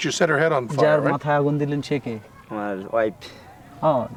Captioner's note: non-english speech